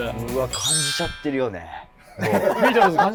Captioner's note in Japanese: 一同：笑い